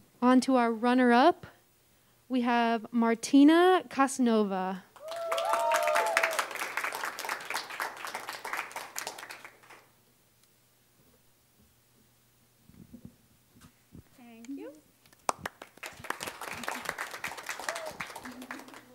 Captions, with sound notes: Onto our runner up, we have Martyna Kosno-Vega. (applause) (audience cheering) Thank you. (applause)